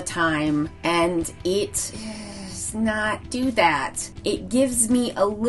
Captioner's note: groans